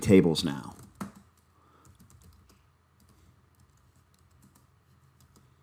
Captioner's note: keyboard typing